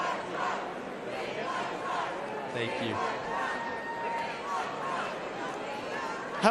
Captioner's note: chanting